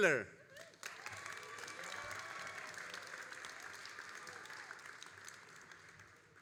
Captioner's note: all applauding and cheering